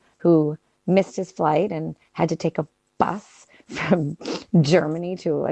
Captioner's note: laughs